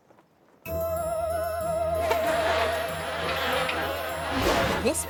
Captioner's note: buzzing; gasps